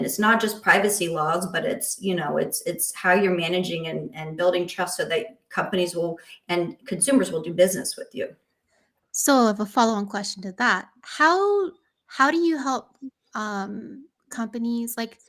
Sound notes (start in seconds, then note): none